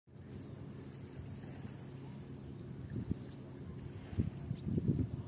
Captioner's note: waves rippling on shoreline; distant voices chatting and children playing